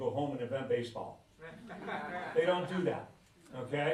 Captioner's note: laughter